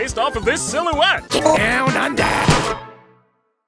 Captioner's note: pop